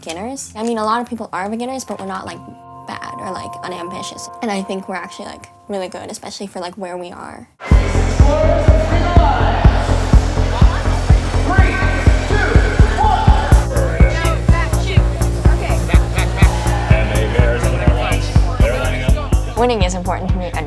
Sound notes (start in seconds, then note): 7.7 announcer over speaker; 10.1 upbeat music